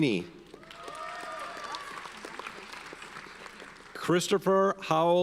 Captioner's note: audience cheers and applauds